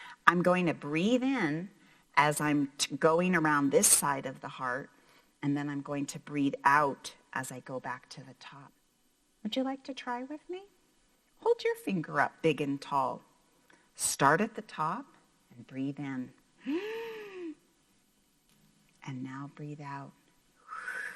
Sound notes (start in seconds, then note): 16.6 breathes in